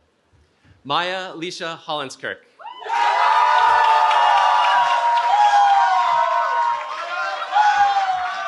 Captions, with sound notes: Maia Lisha Hollins-Kirk. [CHEERING]